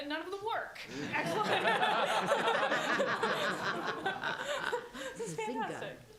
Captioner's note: laughter